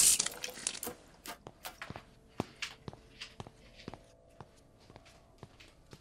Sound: footsteps

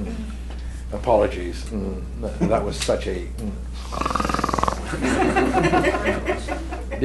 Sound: snore; laughter

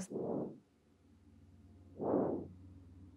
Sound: breathing into mic

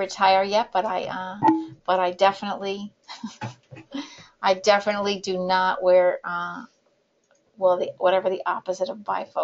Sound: laughts

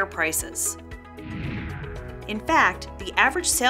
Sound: swooshing

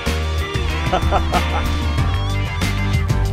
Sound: laughs; blues rock music

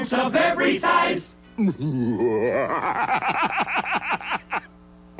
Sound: laughing

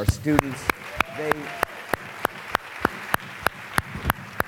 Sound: applause

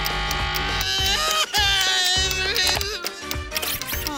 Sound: sobbing

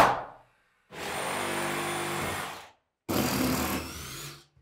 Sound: tool whirring

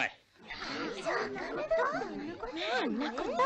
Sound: chattering

